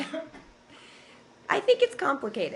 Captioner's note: laughter